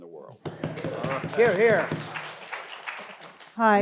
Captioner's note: attendees applauding